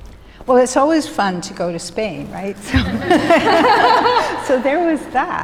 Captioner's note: laughs